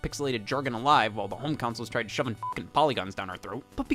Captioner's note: beep